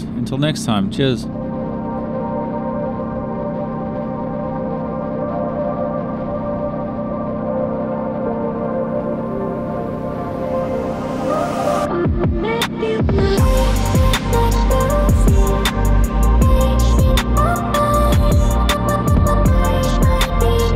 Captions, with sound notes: Until next time, cheers. (tense music) (engine roaring)